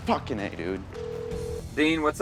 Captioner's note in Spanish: teléfono sonando